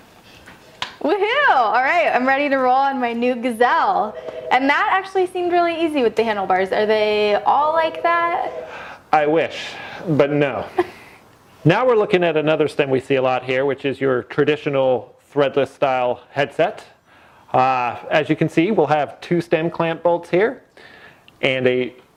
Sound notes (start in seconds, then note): 8.7 sigh